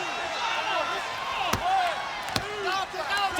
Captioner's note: referee tapping